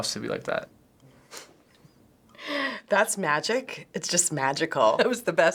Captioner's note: chuckles